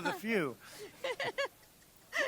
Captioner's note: laughs